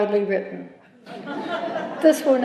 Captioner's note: laughter